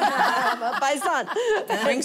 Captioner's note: laughter